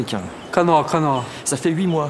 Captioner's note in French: langage indigène